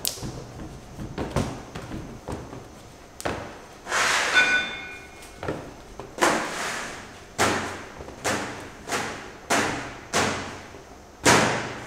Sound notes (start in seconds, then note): 7.5 the mysterious thudding noise; 11.2 thud